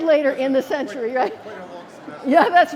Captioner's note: laughter